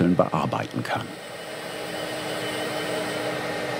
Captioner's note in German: Dröhnen